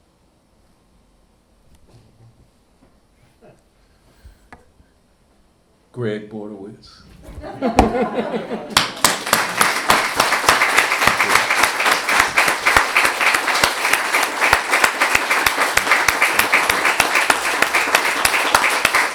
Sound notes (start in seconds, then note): 7.2 audience laughing; 8.9 audience applauding